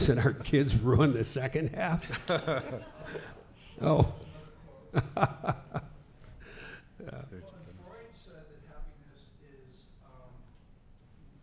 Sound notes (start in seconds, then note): 2.0 laughing